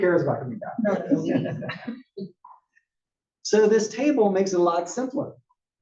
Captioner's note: laugh